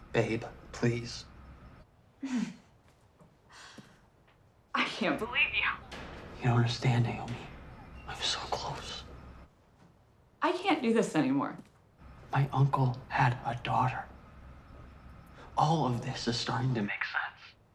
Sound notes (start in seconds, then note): 2.2 Naomi chuckles